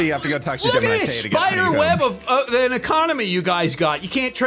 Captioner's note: stammers